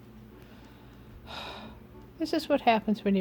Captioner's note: sigh